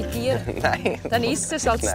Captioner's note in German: lacht